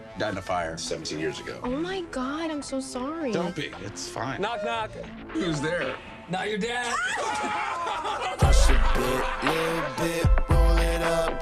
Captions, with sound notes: Died in a fire 17 years ago. - Oh my god, I'm so sorry. - Don't be, it's fine. - Knock knock. - Who's there? - Not your dad. (laughing) (hip hop music)